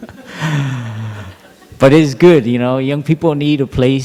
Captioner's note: laughter